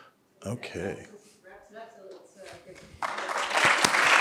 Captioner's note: woman speaking faintly; audience applauding